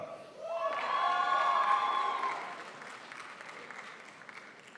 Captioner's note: crowd applauds